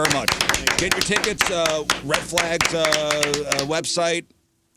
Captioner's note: applause